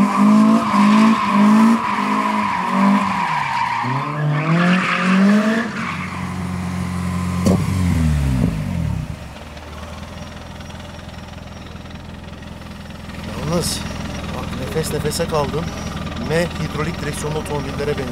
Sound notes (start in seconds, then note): 0.0 car sounds; 6.8 car sounds; 13.1 car sounds